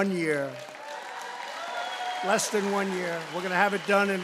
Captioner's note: applause